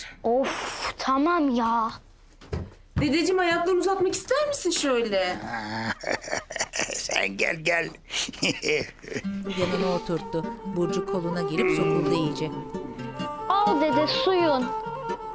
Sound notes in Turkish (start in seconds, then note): 5.8 Gülme sesi